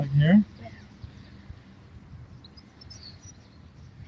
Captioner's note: birds chirping